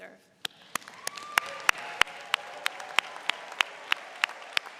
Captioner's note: cheering